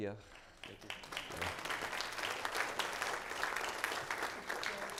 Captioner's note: applause